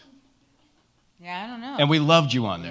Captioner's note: laughs